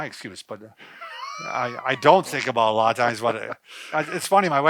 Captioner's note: laughs